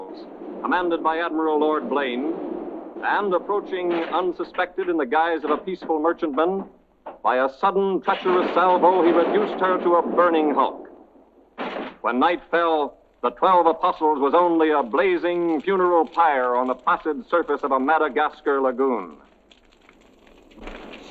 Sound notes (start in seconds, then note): 0.0 cannons blasting; 11.3 crashing; 19.2 fire cracking